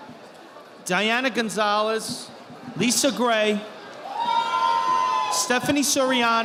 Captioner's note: audience applauding